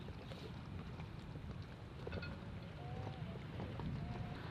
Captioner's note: lapping waves